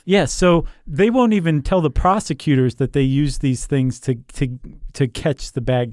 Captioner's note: none